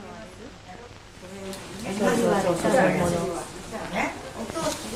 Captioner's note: people speaking Japanese